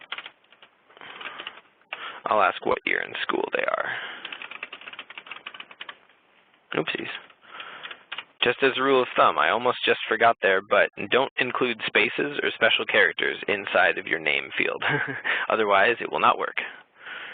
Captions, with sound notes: I'll ask what year in school they are. (typing) Oopsies. Just as a rule of thumb, I almost just forgot there, but don't include spaces or special characters inside of your name field, otherwise it will not work.